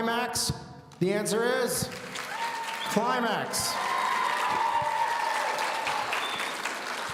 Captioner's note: audience cheering